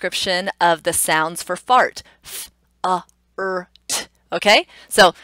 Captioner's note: sounding out each letter